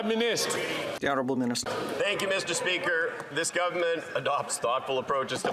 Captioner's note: chatter